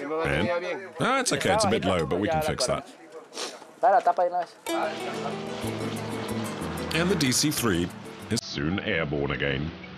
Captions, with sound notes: -And? -It's okay. It's low, but we can fix that. [Spanish spoken audio] The DC-3 is soon airborne again.